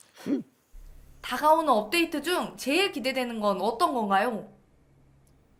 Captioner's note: speaking foreign language